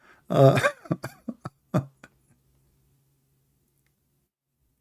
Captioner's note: Ketawa